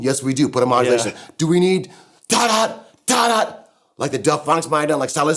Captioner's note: vocal sound effects